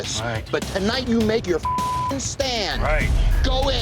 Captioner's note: beep